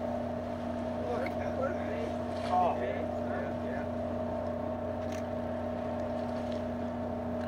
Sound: boat engine sounds

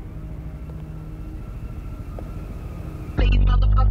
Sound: heels clacking

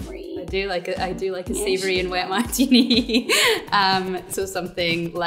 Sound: laughs

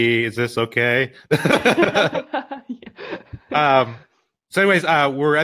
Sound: both laughing

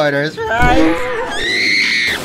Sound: Telescope screaming

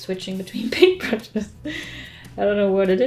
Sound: laughs

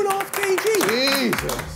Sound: group claps

